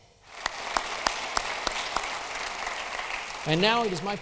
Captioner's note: audience applauding